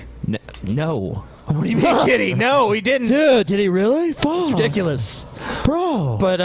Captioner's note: stoner voice